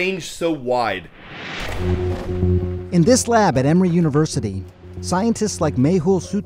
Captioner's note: voice-over